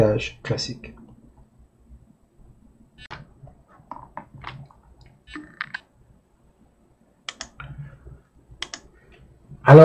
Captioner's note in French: Silence